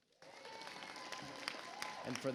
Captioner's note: audience applauds